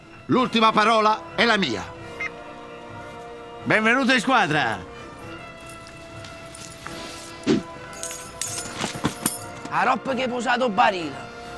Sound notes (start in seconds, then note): 6.8 weid hissing sound; 7.8 van keys fall on the ground